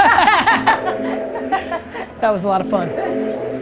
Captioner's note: laughing